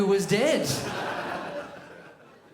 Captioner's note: crowd laughs